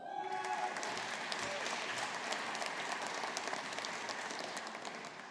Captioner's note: audience applauding